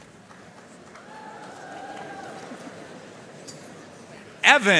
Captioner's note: audience cheering and applauding